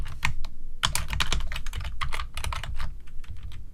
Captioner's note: typing